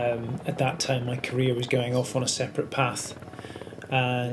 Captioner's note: none